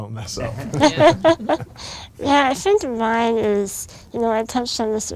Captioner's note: laughs